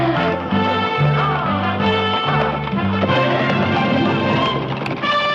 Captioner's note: shouting